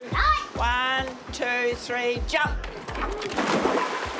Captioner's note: boy yelps